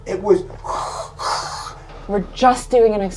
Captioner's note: wind noises